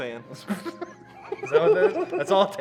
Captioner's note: laughs